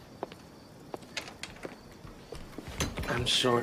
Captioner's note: door opens